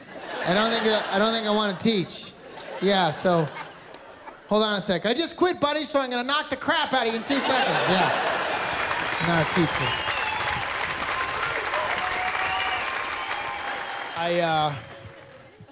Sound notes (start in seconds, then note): 11.6 applause, cheering